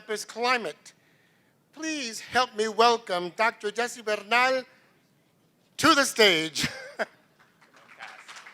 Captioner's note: laughs; applause